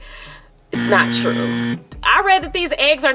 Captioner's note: buzzer blaring